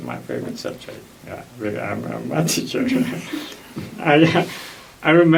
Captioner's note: laughs